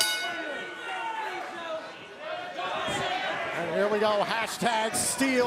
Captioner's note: bell ringing; crowd chatter